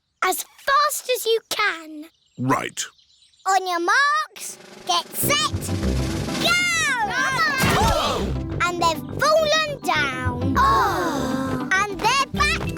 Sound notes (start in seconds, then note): 0.1 snorts; 8.0 all groan